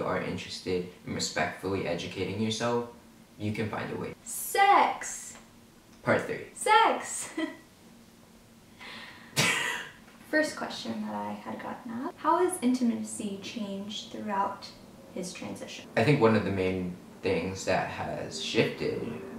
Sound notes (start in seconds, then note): 9.1 laughs